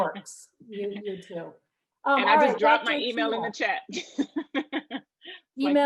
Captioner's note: laughter